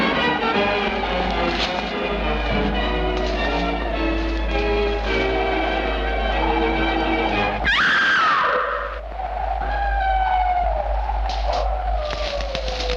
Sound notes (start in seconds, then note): 7.6 Madeline screams; 10.2 wolf howling